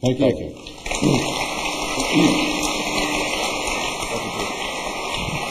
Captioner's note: applause